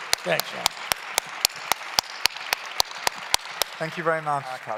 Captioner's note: claps